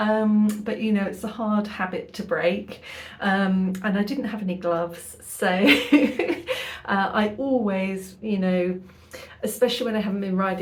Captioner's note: laughing